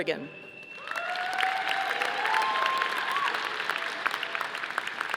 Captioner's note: audience applauding